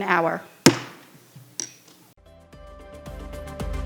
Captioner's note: hammer thumps; upbeat gentle music